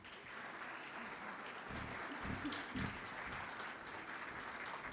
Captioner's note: audience applauds